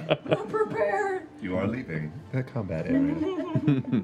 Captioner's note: computer voice